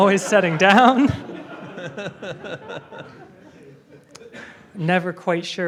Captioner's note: audience laughing